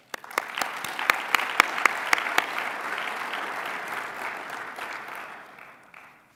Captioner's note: applause